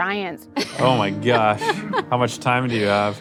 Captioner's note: lady chuckles